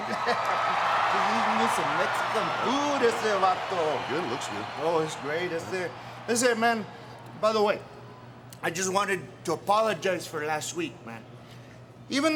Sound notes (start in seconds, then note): 0.2 crowd cheering; 3.1 speaking Spanish